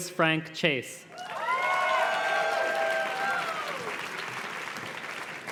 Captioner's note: audience cheers and claps